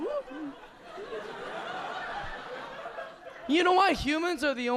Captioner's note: audience laughing